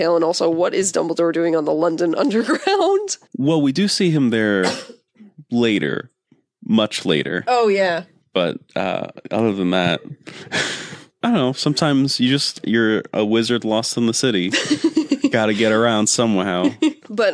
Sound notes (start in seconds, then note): 9.2 laughs